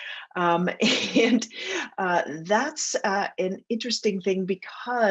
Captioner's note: laughter